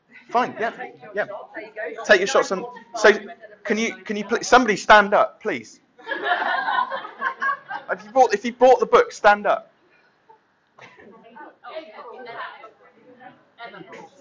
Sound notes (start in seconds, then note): 6.0 laughter; 10.9 chattering